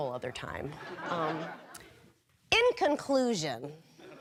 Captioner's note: audience laughing